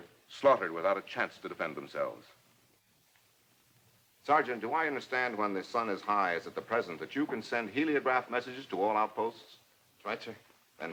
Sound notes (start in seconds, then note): none